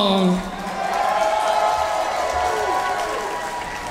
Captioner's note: audience cheers